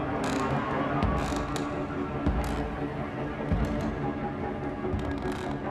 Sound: ominous music; floorboards creaking; ominous music continues

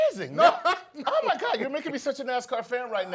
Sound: laugh

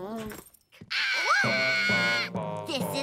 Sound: groaning; screaming

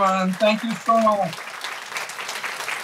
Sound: applause

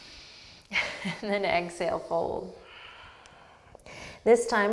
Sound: deep breath; laughs

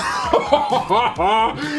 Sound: laughs

